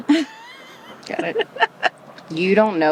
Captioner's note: laugh